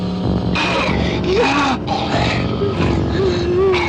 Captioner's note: growling